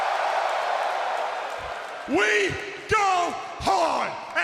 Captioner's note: cheers and applause